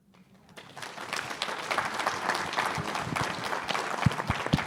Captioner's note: audience applauding